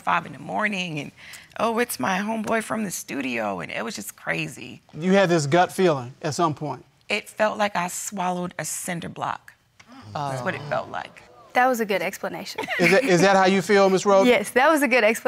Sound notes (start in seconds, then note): 13.3 laughs